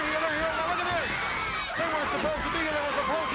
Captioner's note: crowd clamoring